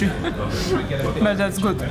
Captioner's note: laughing